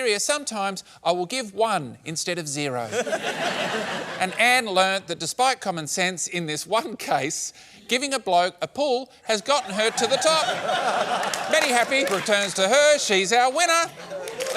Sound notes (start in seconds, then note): 2.9 laughter; 14.0 cheering and applause